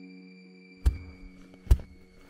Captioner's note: thud